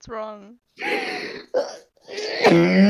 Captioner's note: inhale; pAiNeD wHeEzE